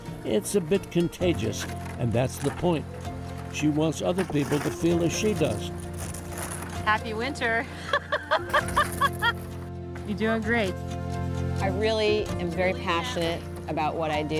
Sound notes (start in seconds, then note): 7.7 laughing